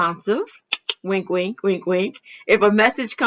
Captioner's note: clicks tongue